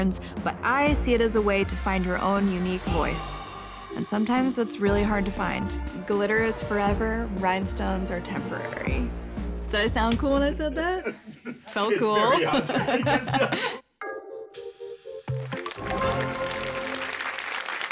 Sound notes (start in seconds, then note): 13.0 laughter